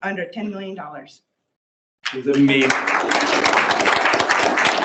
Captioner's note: sound of applause